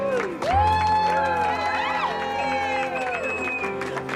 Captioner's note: cheering